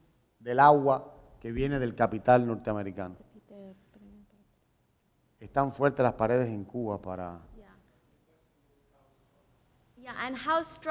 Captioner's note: speaking in Spanish